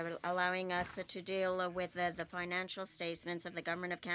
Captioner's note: speaking French